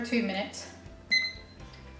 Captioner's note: timer beeps